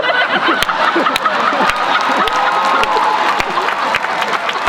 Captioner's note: laughter; applause